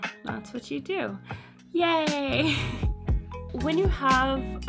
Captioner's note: giggles